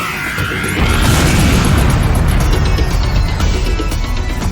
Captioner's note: explosion booming